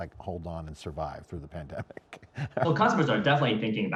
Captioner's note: giggles